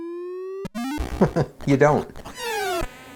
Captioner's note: chuckles